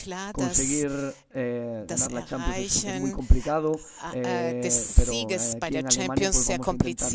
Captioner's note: coughs